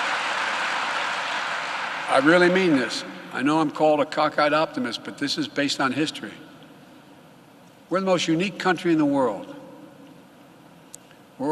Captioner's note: applause